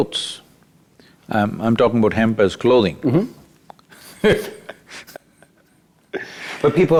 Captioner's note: laughs